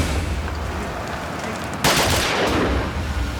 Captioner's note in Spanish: Disparos